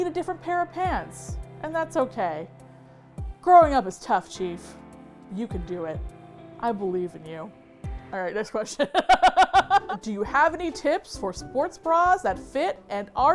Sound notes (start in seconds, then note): 8.8 laughs